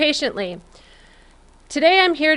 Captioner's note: silence